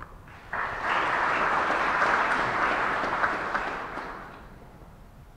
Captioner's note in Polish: oklaski